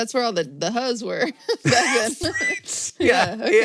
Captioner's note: both laugh